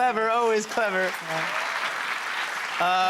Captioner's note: cheers and applause